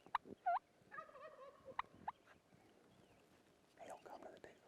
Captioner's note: turkey calling